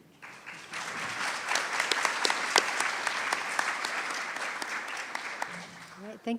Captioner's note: applause